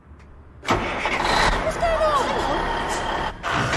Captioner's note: engine starts